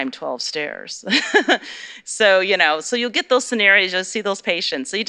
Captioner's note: laughter